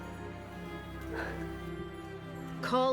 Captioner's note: annaline exhaling